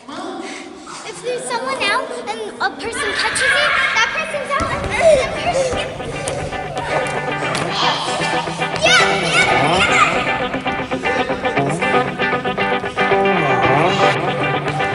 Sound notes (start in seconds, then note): 5.1 laughter; 8.0 yelling